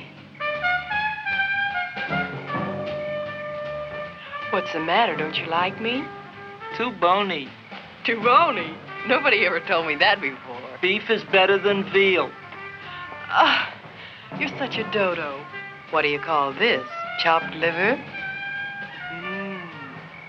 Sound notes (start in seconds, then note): 0.2 jazzy romantic music; 12.9 Leonora groans; 18.9 Leonora laughs